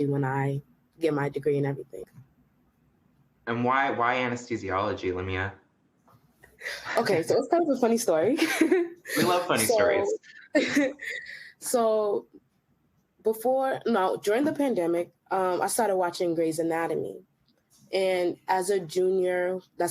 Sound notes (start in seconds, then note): 8.3 giggles; 10.3 chuckles softly